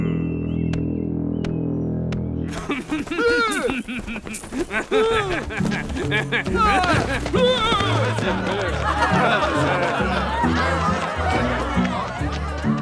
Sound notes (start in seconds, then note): 2.7 laughter; 9.5 chatter